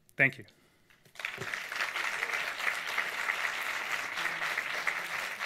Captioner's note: audience applauds